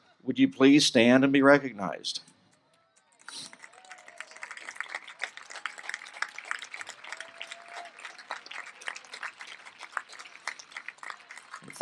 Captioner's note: applause